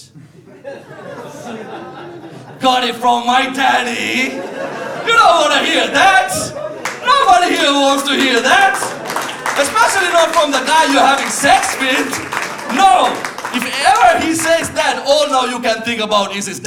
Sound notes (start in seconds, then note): 0.1 laughter